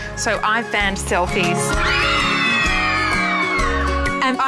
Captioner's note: children screaming